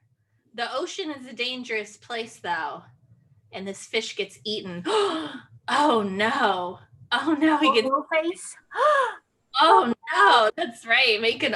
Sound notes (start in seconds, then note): 5.9 gasp